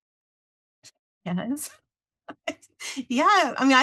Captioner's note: laughs